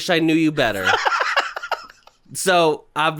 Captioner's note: giggling